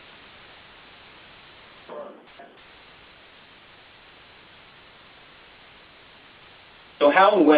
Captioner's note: silence